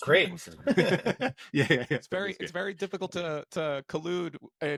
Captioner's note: both laughing